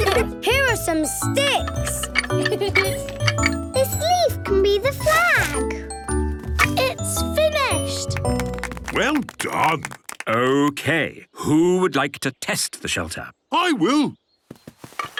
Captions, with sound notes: - Here are some sticks! (laughing) - This leaf can be the flag. - It's finished. (applause) - Well done. - Okay, who would like to test the shelter? - I will!